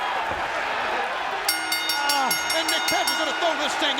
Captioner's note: bell rings